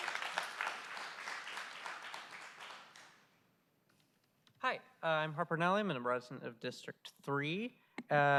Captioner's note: applause